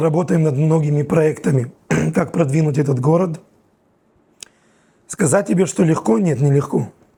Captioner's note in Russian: откашливается